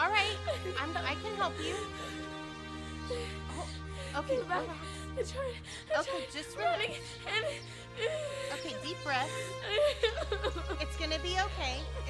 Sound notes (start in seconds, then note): 9.7 Laurie cries